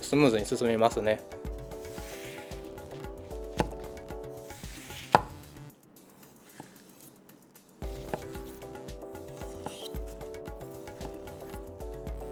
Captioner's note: the sound of cutting